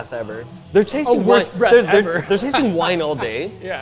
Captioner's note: laughs